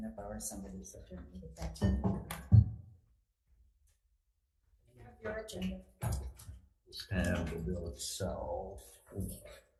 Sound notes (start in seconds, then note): 1.5 thermos thudding